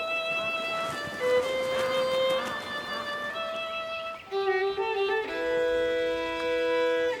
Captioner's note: birds chirping; ducks quacking